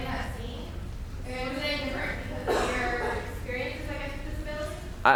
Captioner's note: speech drowned out by audience member coughing